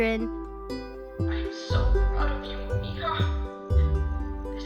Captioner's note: emotional voice from TV